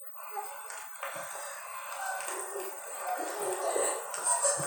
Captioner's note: zombies growling